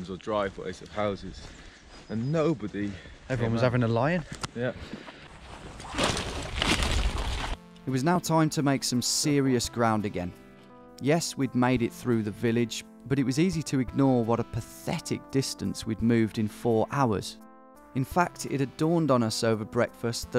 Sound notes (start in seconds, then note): 5.0 rustling